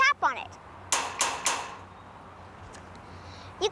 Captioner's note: clanging